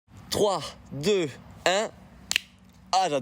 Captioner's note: clap